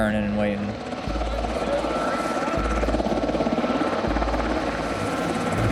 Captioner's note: helicopter whirring